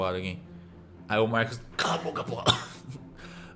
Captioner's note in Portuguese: tosse